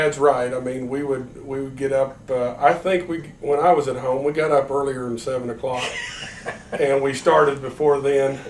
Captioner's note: laughter